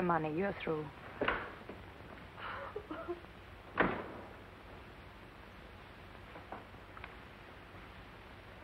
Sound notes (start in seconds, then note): 2.4 soft sobbing